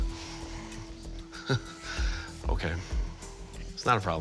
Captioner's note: chuckles